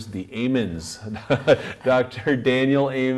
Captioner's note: laughs